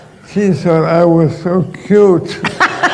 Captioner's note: laughter